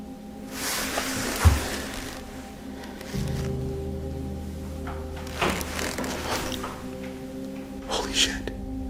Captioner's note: someone tugs at the door handle